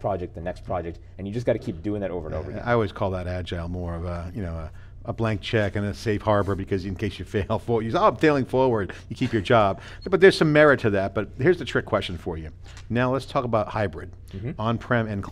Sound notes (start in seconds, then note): 9.0 laughing